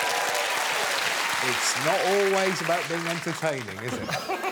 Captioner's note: cheers and applause